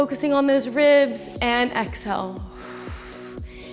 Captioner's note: exhales